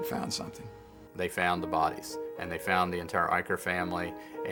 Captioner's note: voiceover